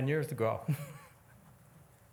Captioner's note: laughs